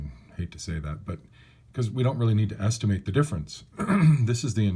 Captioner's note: cough